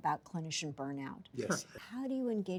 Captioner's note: lightly chuckles